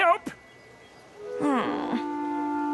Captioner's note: groan